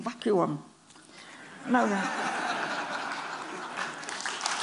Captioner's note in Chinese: Laughter; 笑聲; Applause